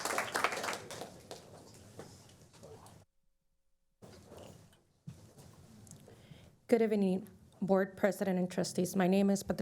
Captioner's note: applause